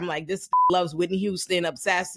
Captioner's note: beep